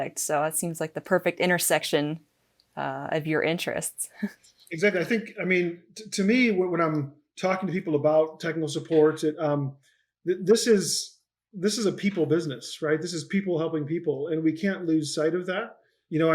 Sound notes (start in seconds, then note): 4.8 laughing